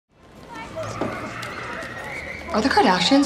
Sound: tires squealing

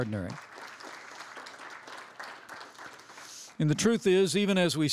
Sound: applause

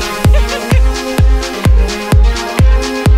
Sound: laughing

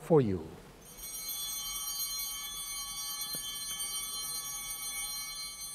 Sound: chimes ringing

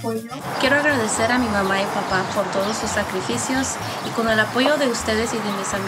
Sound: speaks in foreign language

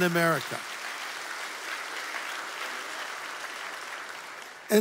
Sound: audience applauds

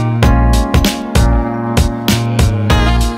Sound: dink

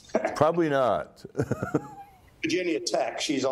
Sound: laughs

